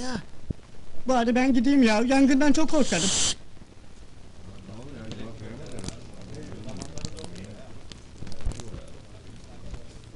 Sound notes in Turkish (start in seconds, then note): 3.8 su damlama sesi̇ geli̇r